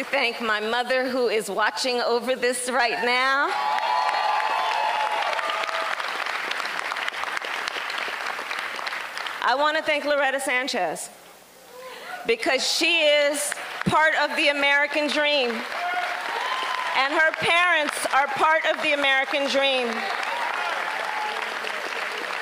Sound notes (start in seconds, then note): 8.3 applause; 19.3 applause